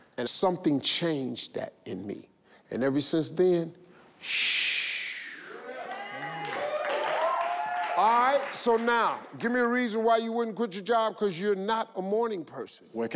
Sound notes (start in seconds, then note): 5.4 audience cheer